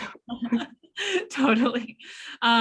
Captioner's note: laughter